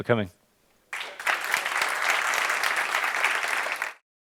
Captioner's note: applause